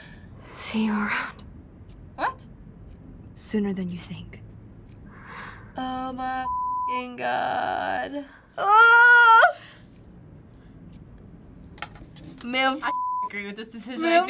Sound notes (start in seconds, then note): 8.7 yowls